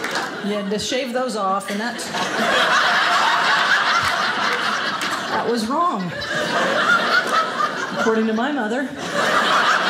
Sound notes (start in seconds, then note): 1.8 audience laughing